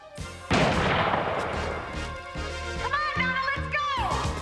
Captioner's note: gun firing